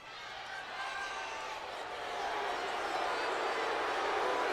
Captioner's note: crowd shouts and boos